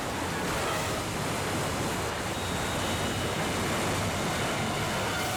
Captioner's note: waterfall thundering